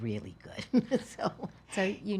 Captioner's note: laughs